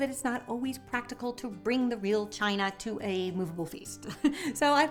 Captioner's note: chuckling